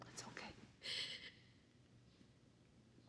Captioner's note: sobbing